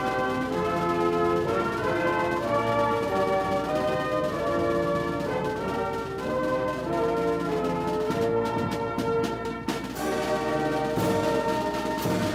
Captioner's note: gunfire